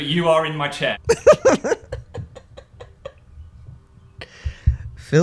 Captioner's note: laughter